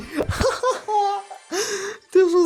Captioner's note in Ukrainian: сміється